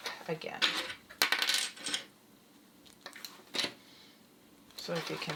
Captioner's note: clip falling